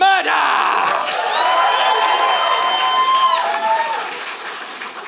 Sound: applause

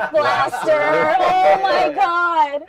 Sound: laughter

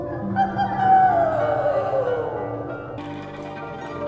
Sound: sound of the children joining in with howling

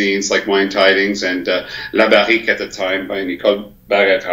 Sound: speaks in foreign language

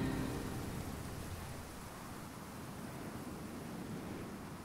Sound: dramatic music; wind whistling

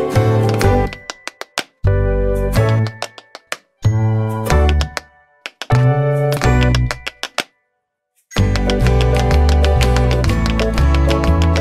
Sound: tap dance

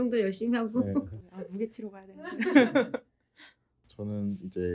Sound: laughs

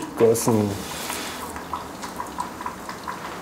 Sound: high bubbling

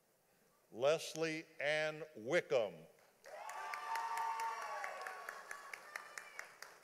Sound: audience applauding

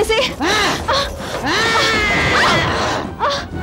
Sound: grunts

